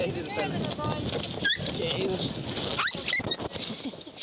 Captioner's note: dog squealing